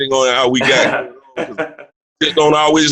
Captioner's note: laughing